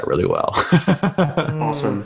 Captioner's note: laughs